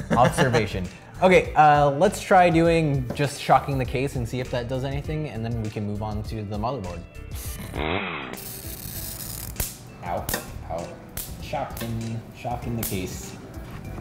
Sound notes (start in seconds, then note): 7.7 chainsaw sound; 8.3 snapping sounds